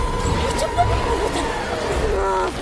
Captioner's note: stammers